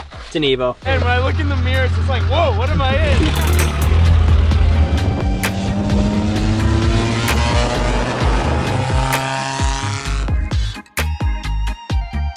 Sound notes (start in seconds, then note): 0.1 car engine revving; 3.1 upbeat music; 4.0 car engine revving; 4.8 upbeat music